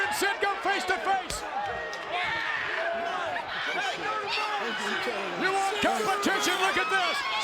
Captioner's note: applause